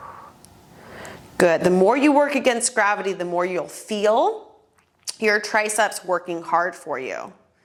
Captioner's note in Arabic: زفير